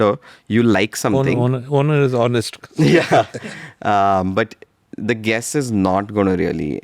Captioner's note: laughs